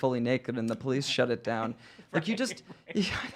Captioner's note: laughing